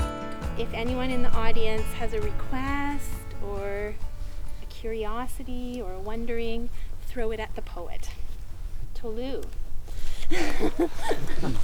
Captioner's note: laughs